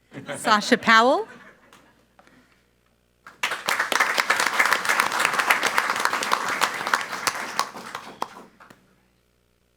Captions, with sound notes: (all laughing) Sasha Powell. (audience applauds)